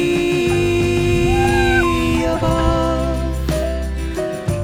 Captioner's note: laughs